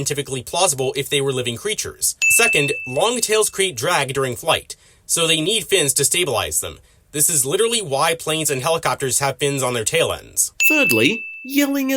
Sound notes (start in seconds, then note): none